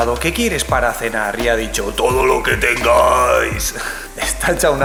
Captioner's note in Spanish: pone voz gutural